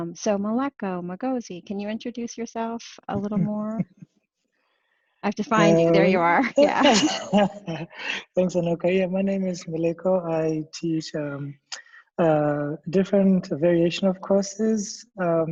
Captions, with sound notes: So Meleko Mokgosi, can you introduce yourself a little more? I have to find you. There you are. - (laughs) Thanks Anoka. My name is Meleko. I teach a different variation of courses.